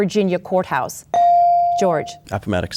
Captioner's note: bell dings